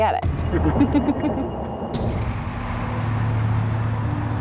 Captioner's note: laughs